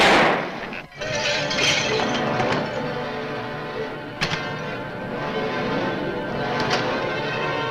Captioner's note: gun fires; tense orchestral music; bottles clatter